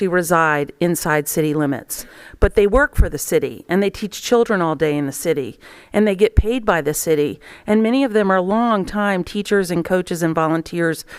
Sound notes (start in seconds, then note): none